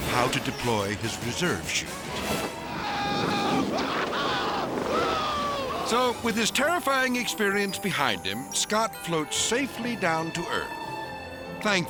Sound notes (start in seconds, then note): 3.1 screaming